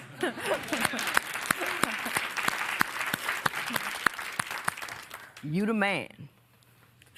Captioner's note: applause